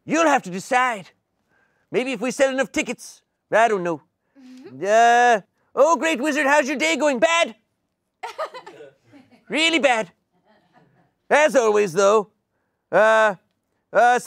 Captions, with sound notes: You'll have to decide. Maybe if we sell enough tickets. I don't know. Oh, "great wizard. How's your day going?" Bad. (audience laughing) Really bad, as always, though.